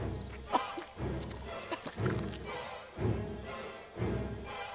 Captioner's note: coughing and gagging